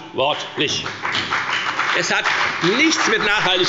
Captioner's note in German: Beifall bei der FDP und der SPD